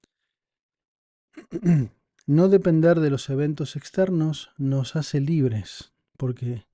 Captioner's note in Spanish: carraspeo